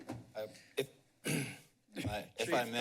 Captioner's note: clears throat